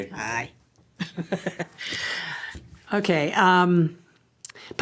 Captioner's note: laughter